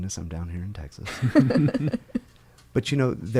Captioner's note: laughing